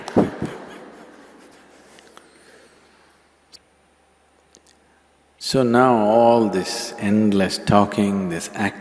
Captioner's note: laughs